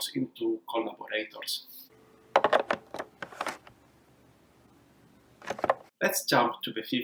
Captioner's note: low humming noise